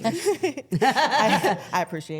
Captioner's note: Stephanie laughing